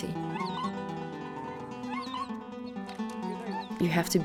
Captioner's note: dog squealing